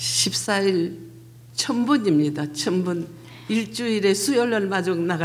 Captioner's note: speaking foreign language